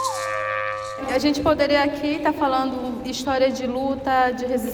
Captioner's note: non-english speech